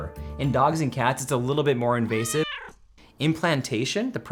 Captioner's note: cat meows